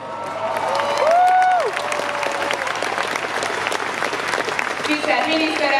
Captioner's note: applause